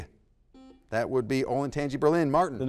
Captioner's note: buzzer buzzes